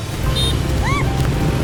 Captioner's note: screams